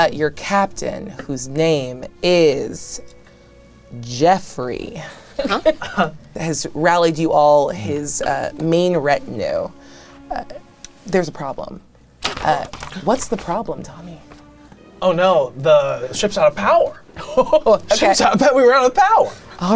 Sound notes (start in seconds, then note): 5.3 chuckles; 17.1 laughs